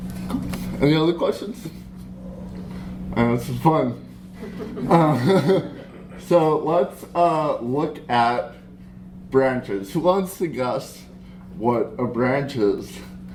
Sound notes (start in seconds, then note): 4.3 laughter